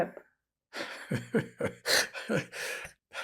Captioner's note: laughing